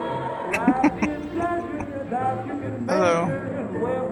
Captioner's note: laughing